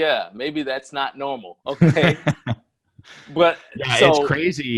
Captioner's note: laughs